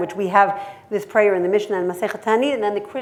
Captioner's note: hebrew